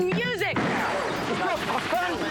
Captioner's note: smashes screen